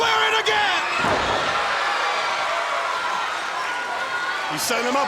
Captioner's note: crowd cheering